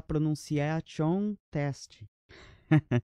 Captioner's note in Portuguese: risos